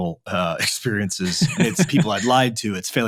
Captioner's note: laughing